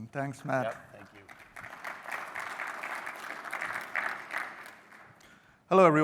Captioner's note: applause